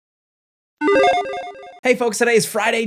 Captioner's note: logo chiming